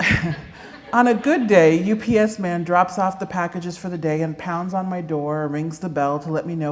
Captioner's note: laughter